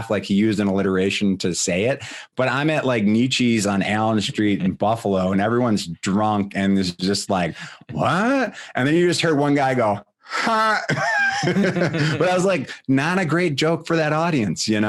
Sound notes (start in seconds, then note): 10.3 laughing